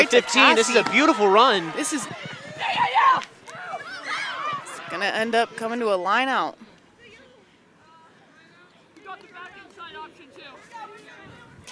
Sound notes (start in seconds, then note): 2.8 shouting; 8.5 onfield chatter